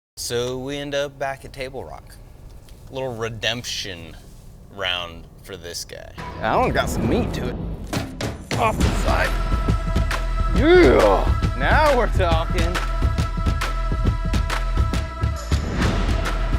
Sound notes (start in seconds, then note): 10.6 grunts; 13.6 rhythmic music